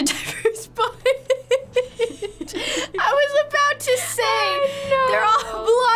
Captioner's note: laughs